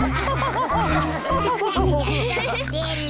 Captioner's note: kids laughing